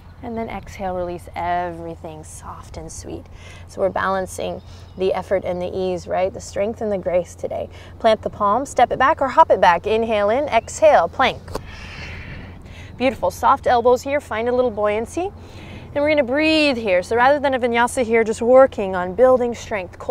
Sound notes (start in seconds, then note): 11.6 blows out breath